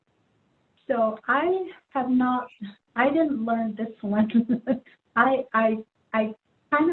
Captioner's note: laughs